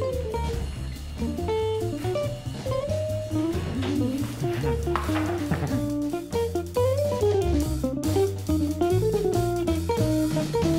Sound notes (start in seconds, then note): 4.3 giggles